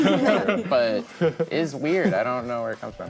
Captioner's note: group laughing